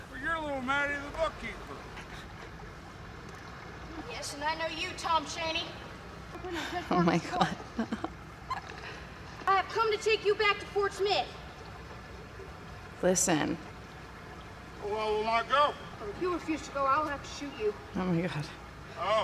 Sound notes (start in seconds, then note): 6.4 Hailee chuckles